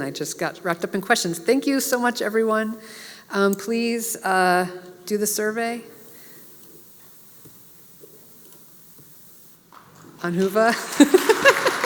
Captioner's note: applause; laugh